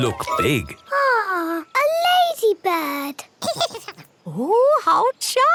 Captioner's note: giggles